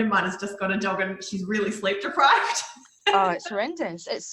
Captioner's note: laughs